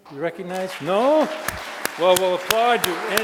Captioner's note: audience applauding